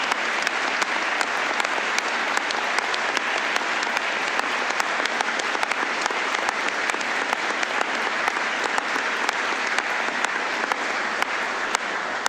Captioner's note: applause